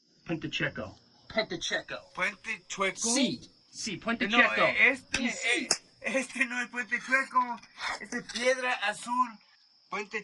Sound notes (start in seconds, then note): 4.4 foreign language